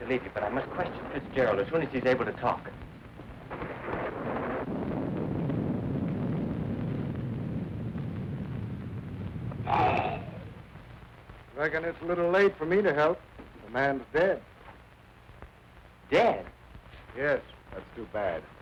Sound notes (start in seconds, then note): 2.5 thunder rumbling; 9.6 wolfman growling